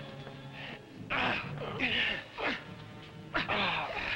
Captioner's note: Popoca groaning; men grunting